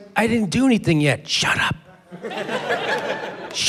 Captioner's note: whispers